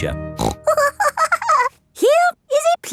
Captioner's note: snorts and giggles